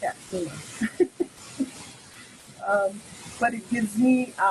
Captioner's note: laughing